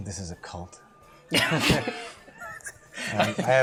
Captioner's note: laughter